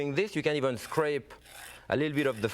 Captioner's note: scrapping sound